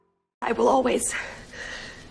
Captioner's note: voiceover